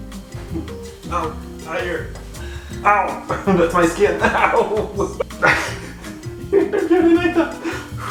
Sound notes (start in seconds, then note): 4.9 groans; 5.1 laughing